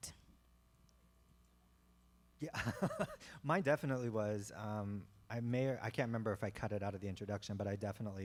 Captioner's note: chuckle